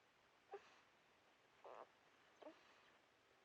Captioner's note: baby Whimpers